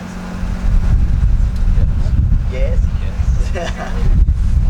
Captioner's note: laughing